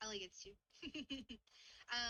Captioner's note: chuckles